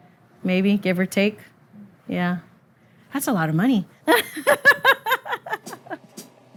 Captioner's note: laughs